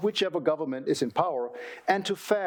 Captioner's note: none